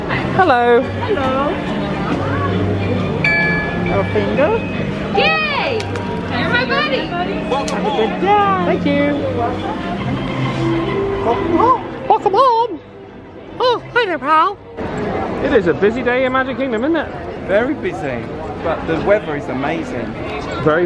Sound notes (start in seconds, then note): 3.2 machine chimes; 12.1 In a Mickey Mouse voice